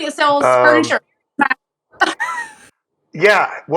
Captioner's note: laugh